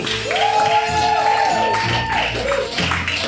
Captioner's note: audience cheering; spooky music